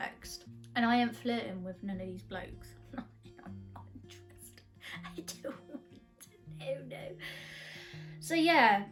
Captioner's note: laughs